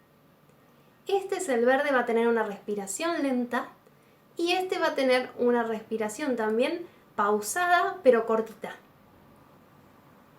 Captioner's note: like a deep breath